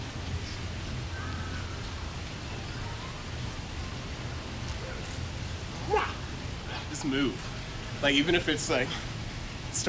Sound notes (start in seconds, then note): 6.3 gentle yell